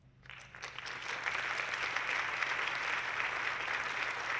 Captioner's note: audience clapping